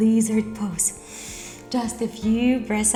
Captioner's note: breathing